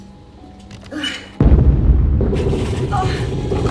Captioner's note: muffled explosion